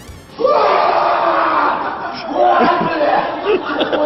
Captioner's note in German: lauter Schrei